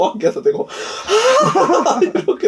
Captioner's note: sigh